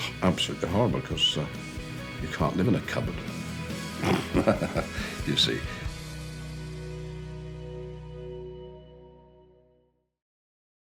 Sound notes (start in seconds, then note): 3.9 laughs